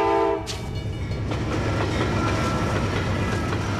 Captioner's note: train zooms